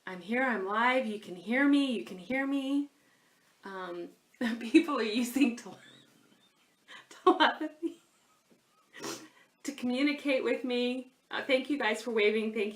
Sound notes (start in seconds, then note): 5.6 laughs